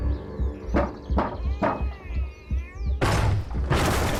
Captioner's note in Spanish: Toques en la puerta; Estruendo